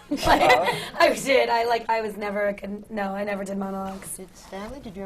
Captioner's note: laughter